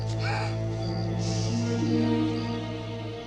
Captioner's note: Eli shushes; Amy gasps; ominous music fades